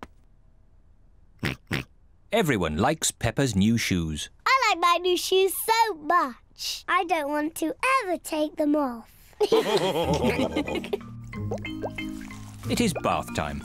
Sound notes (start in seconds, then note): 1.4 oinks; 9.4 all laugh